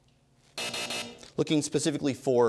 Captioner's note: buzzer